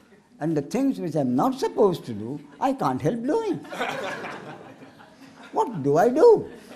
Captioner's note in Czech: smích